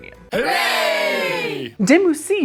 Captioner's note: crowd